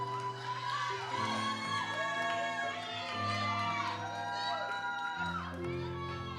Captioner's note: audience cheers and applauds